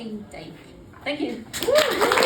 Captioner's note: applause